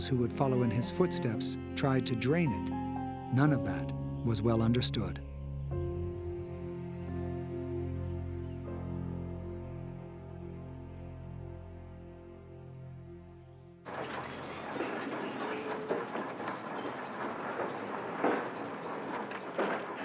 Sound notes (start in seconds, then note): 13.8 machinery clanging